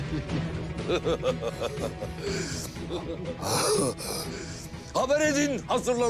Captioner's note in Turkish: Gülüyorlar